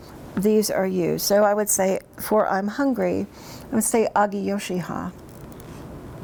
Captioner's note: speaks in Cherokee